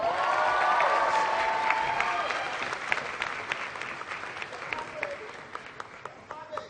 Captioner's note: applause